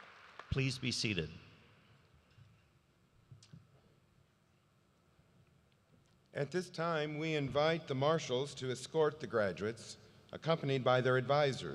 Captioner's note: applause